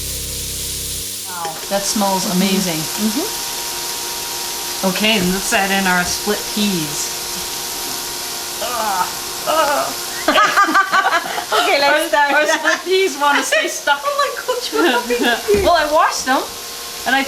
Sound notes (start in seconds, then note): 9.5 both laugh